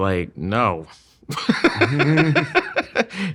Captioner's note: laughing